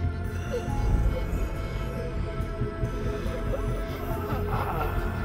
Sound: louder moaning

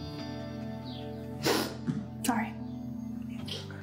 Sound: sniffling

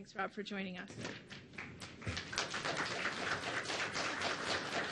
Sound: audience applauds

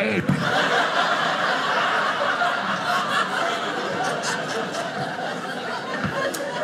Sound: audience laughing

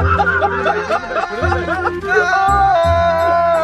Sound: laughs

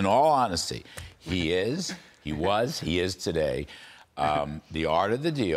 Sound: laughter

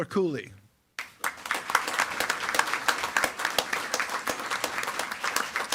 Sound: attendees clapping

